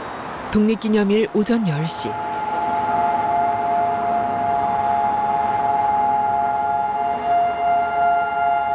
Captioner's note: Sirens echoing across Israel